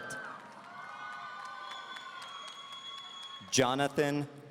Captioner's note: audience cheering